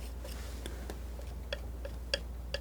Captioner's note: tapping